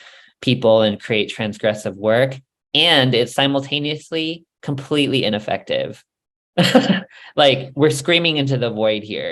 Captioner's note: laughs